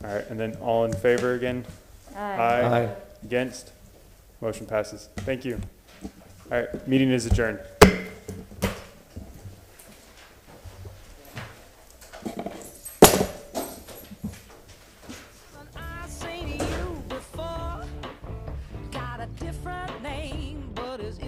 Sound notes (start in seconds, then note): 11.3 sounding gavel